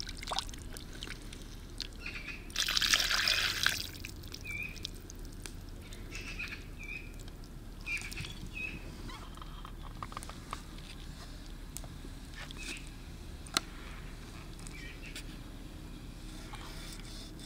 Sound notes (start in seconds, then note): 1.5 birds singing